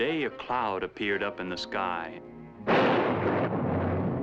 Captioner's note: thunderclap